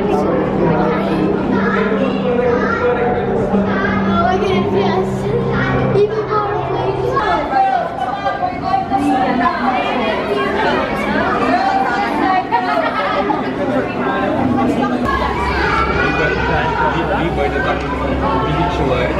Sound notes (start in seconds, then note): 7.7 people loudly chatting